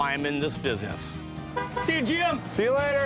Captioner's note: honks horn